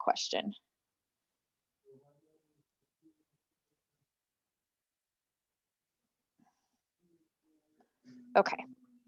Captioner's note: silence